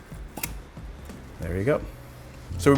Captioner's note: cork pops